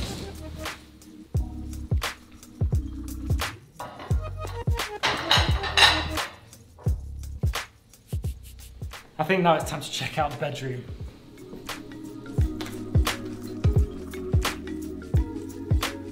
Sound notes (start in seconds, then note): 0.2 electronic pop music; 4.8 dishes clamor